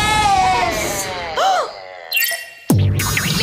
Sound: gasps

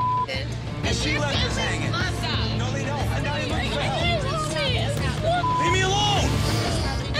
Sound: beep; intense music; yelling

